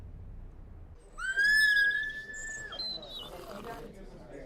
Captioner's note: Vivian Screaming